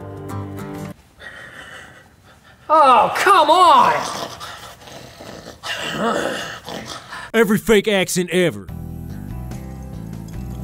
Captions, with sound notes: Oh, come on! (grunts and snorts) Every Fake Accent Ever